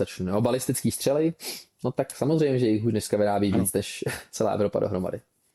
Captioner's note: laughter